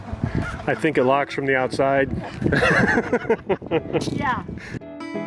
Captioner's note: laughs